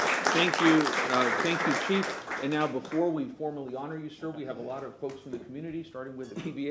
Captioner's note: applause